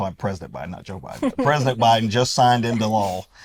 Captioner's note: laughs